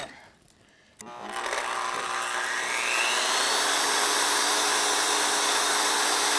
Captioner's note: whirring